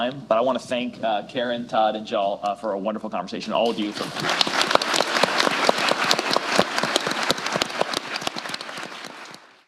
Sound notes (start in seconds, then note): 3.6 applause